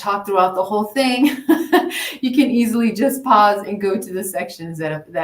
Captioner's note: laughs